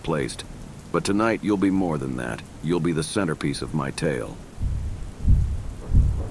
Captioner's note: heart beat